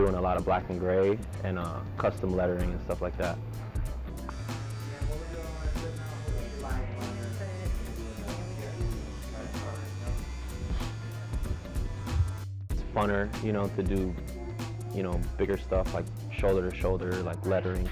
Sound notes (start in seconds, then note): 3.8 tattoo gun buzzing